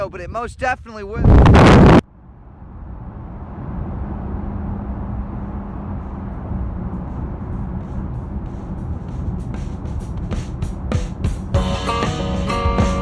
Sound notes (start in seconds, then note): 2.3 car engine hums; 9.1 upbeat acoustic rock music